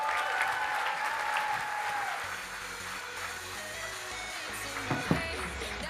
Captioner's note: audience applauding and cheering; electronic dance music